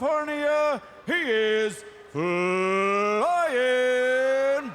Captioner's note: crowd clamoring